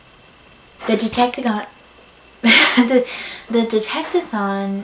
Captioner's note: laughs